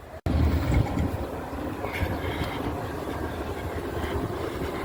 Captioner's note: wind blowing